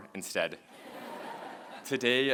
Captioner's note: laughter